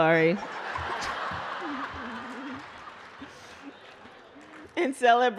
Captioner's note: laughter